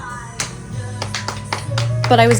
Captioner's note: siblings clap